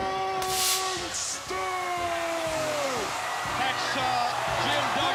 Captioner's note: crowd cheering